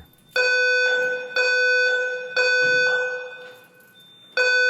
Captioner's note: fire alarm blaring